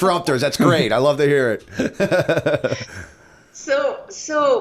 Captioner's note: chuckle